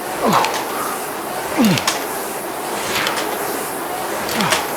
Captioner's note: grunting; exhales